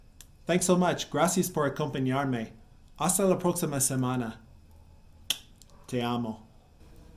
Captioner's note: kissing sound